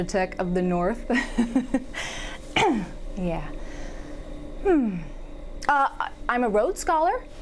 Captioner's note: laughing